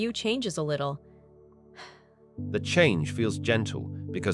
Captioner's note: sigh